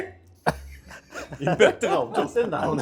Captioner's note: can’t stop laughing